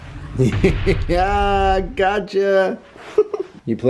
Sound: laughs loudly; laughs

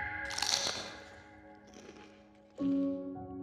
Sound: screaming; crunching

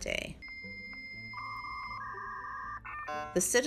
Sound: dial-up internet connecting tone

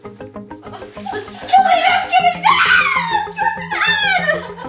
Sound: squeals

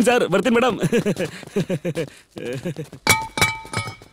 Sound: laughs

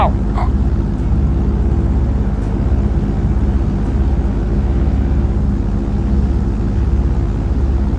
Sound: airplane Engine sounds; eerie music

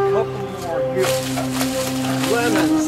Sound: leaves rustling loudly

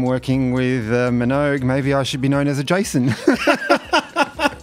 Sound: laughs

